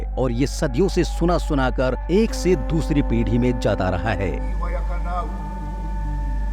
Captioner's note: chanting